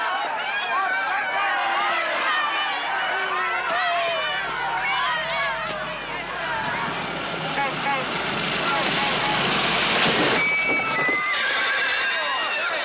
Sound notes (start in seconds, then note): 6.3 car approaching; 8.5 honking horn; 11.1 neighing